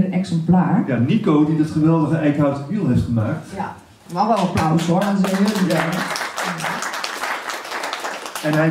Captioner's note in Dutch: hand clapping